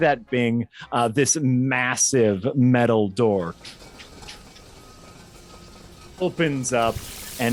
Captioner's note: makes door opening sounds